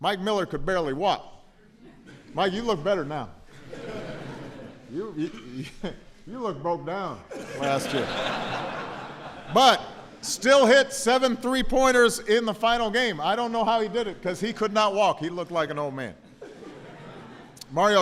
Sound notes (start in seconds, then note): 3.4 laughter; 7.2 laughter